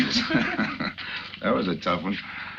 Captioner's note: both laughing